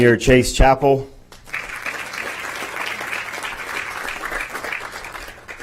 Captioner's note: applause